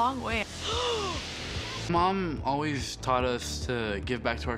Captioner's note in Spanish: gasps